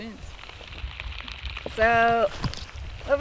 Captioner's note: sound of rain